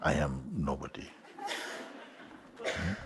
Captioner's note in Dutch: Gelach